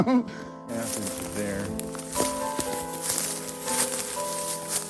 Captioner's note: leaves rustling